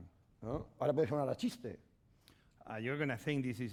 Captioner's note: speaking spanish